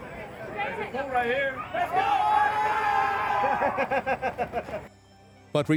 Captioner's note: crowd chatter